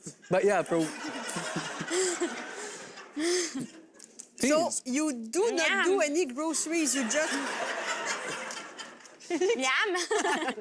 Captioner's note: crowd laughs